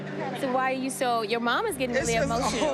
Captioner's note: sighs